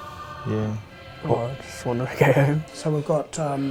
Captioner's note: laughs